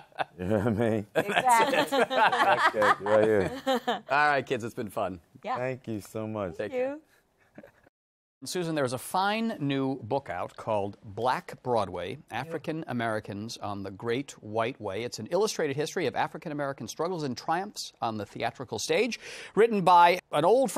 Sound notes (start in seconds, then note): 1.2 laughing; 1.2 laughs; 3.5 laughter